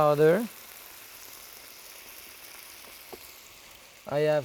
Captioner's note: pan sizzling